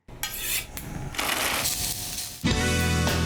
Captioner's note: knife sharpening; sizzling